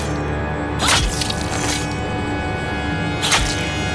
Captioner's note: knife plunges; blood squirts; knife plunges